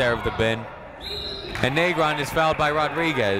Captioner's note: whistle tweeting